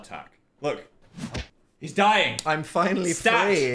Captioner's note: hand thuds